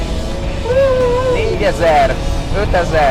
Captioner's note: engine revving